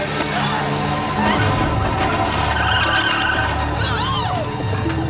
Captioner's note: Carolyn screams